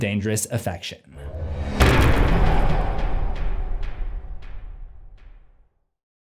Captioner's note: impact